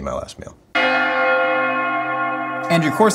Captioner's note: bell Rings